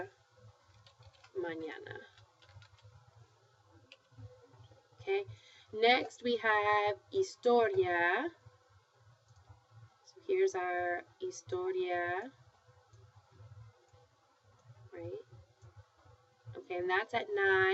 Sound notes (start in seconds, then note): 5.7 spanish; 9.7 spanish